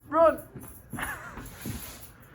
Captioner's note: laughter